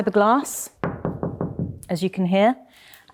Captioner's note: knocks thudding